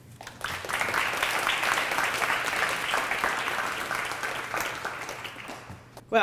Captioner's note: applause